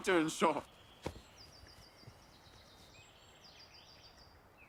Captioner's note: birds singing